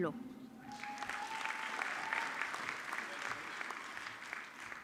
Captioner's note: audience clapping